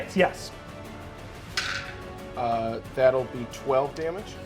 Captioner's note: dice rolling